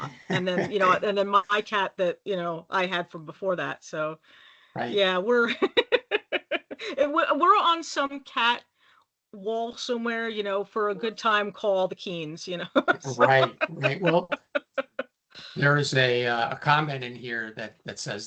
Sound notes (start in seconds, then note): 0.0 laughing; 5.4 laughing; 12.7 laughing